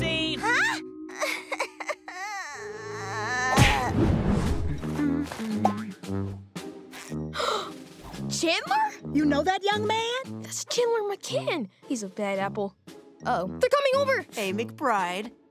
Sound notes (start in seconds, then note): 1.0 cries; 4.8 humming; 6.9 gasps